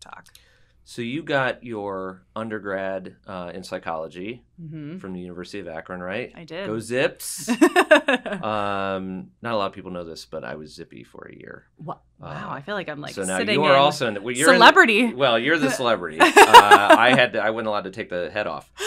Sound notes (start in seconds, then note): 7.4 laugh